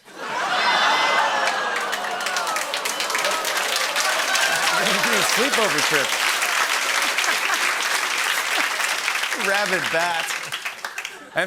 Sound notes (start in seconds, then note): 0.2 laughter, cheers, applause; 7.0 laughs